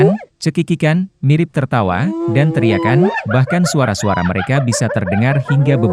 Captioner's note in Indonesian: mirip tertawa